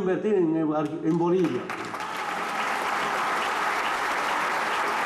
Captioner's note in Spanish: aplausos